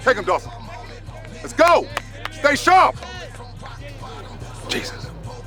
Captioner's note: Stan clapping